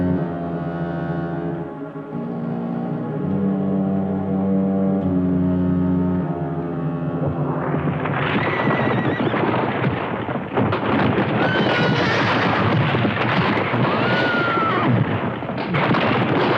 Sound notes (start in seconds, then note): 7.4 horse neighing; 7.4 rocks rumbling